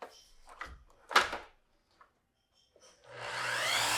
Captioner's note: saw clicking; saw whirring